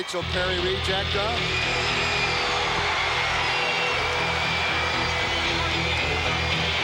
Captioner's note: audience cheering; rock music